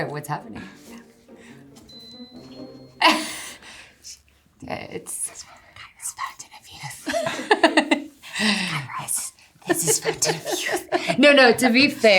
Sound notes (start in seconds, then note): 3.0 Eiza laughing